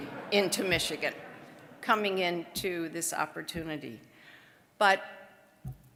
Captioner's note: audience laughing